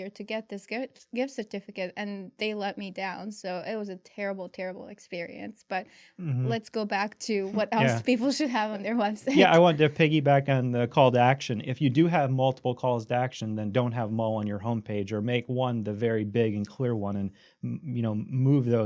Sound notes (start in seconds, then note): 9.2 laughs